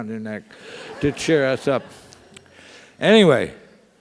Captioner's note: laugh